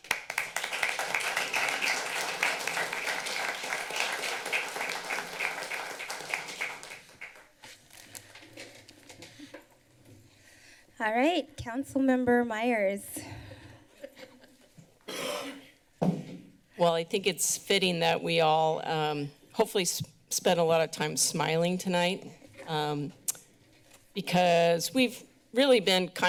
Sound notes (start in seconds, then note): 0.0 applause; 13.8 laughter; 15.0 coughing; 15.8 banging